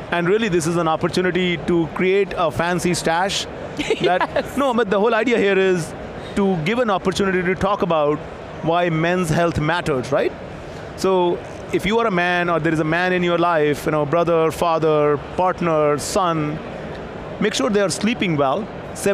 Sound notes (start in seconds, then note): 3.8 laughs